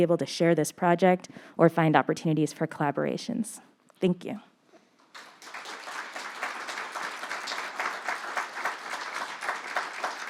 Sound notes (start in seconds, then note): 5.1 audience applauding